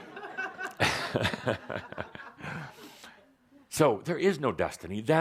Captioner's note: laughter